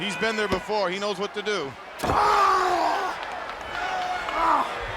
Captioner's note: yells